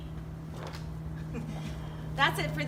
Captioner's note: laughs